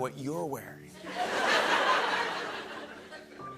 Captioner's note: laughter